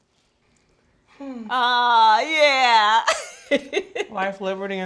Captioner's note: sighs; laughing